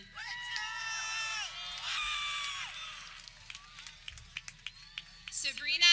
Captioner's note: people cheering